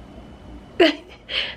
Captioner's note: chuckles